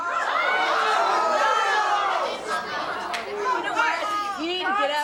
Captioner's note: audience yelling in anger